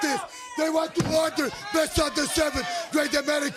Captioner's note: crowd chatter